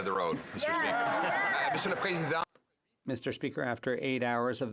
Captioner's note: some Applause